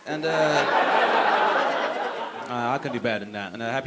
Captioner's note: audience laughing